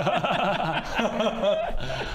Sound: regretful giggles

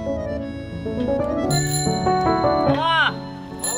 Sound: bicycle bell chiming

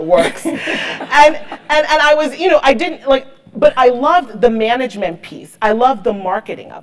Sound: laugh

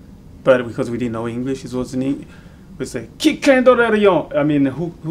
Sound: speaks in French

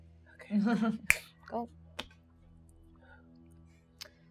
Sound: snaps

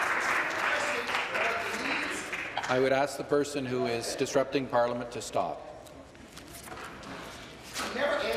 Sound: applause

